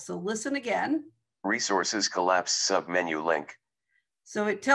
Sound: recorded voice

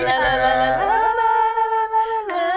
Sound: vocalizing

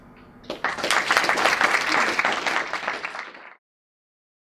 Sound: applaus

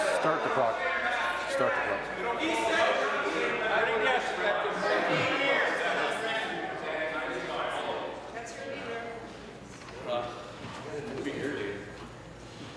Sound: conversation din

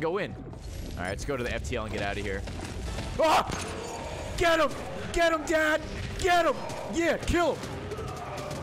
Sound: screams

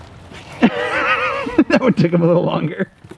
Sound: laughs

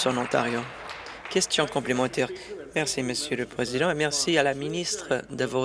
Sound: applause

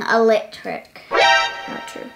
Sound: alert noise

